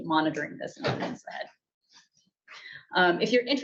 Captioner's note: object clattering